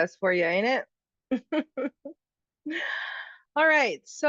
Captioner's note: laughing